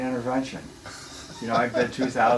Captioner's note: laughs